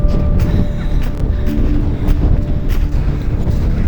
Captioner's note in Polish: dźwięki wichury